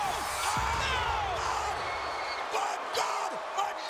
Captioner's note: crowd roaring; commentators crying out